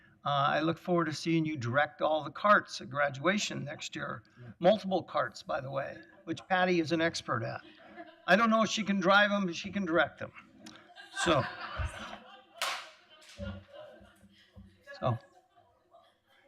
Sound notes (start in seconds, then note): 10.6 laughter